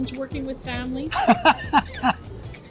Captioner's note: laughs